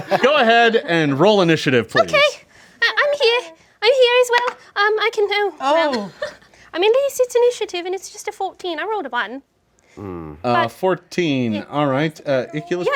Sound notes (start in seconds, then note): 4.3 dice roll